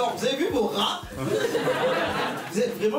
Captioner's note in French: rires